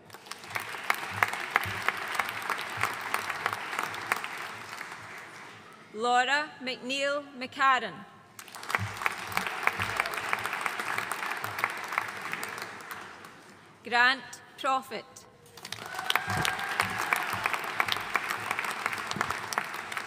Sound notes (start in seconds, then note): 0.0 audience applauding; 8.4 audience applauding; 15.6 audience cheering and applauding